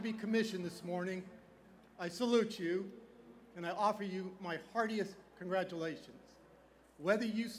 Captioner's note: none